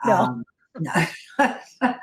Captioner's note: laughs